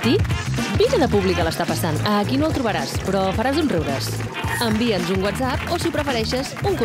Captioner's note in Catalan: aplaudiments